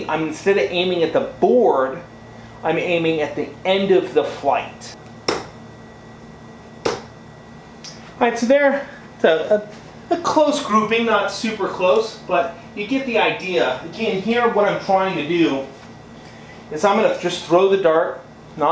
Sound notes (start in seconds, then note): 5.2 thuds